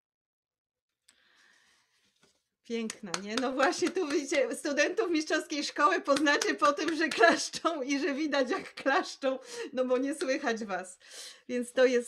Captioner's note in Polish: oklaski